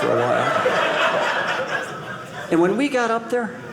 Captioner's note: audience laughing